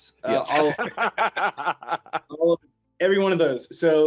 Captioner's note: all laughing